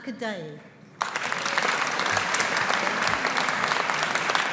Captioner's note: audience applauding